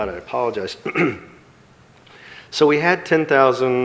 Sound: clears throat

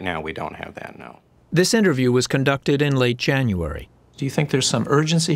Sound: voice-over

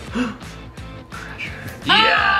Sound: dad gasping

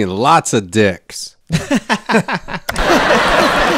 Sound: laughing; clicking; canned audience laughing

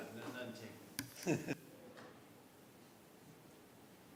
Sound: laughter

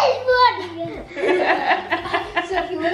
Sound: laughs

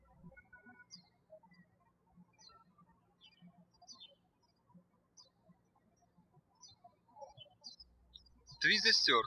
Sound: birds chirping

